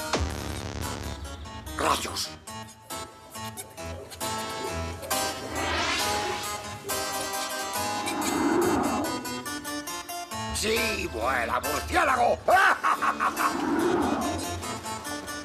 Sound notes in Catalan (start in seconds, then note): 3.8 música tenebrosa; 12.5 música tenebrosa; 12.6 riure estrident